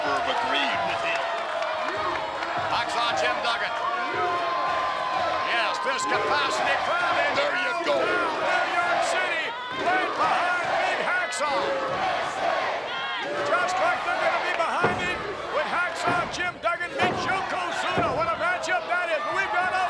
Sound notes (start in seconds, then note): 4.6 crowd chants "USA"